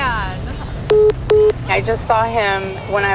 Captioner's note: phone message beeping